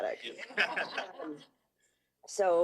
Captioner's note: laughter